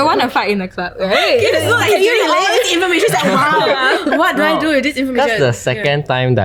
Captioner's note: continuous chattering